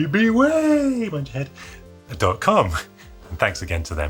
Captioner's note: laughing